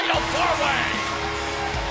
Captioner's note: bell ringing